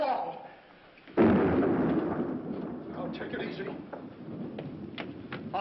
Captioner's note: thunder